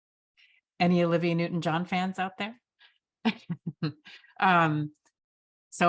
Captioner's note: chuckles